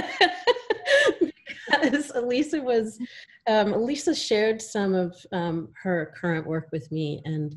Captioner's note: laughter